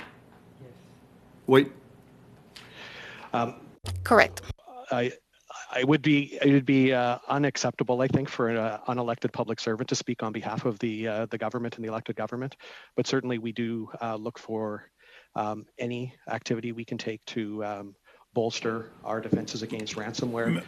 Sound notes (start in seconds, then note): 5.6 speaking French